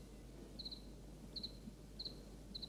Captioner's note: chirp-chirp